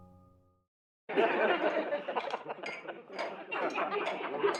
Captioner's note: laughing